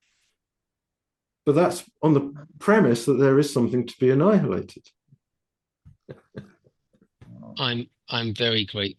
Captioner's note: laughing